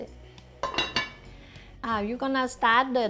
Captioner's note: pot clanking